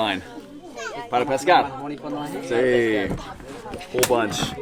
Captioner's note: speaking in foreign language